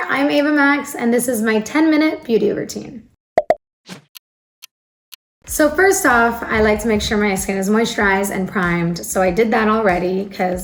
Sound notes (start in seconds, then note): 3.4 bubbles bursting; 3.7 clock ticking; 5.5 soft music